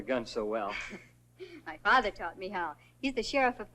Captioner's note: giggles